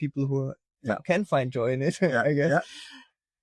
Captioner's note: laughs